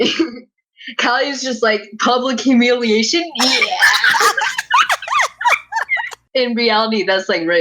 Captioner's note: laughter